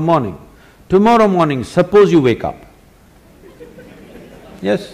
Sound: laughter; 笑聲

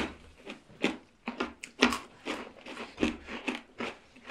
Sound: chomp chomp

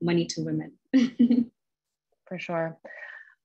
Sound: chuckles

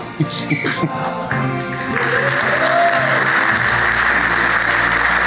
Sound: crowd cheers and applauds

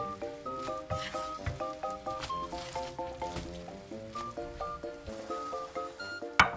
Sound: smelling

